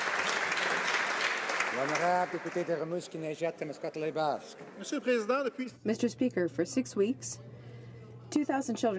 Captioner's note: some Applause